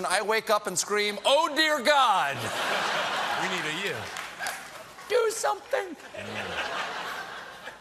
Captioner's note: laughter